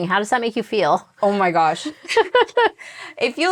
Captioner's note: laughs